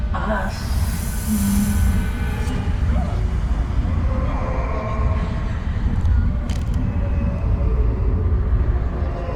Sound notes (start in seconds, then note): 0.0 eerie music rises; 3.2 voices wailing and moaning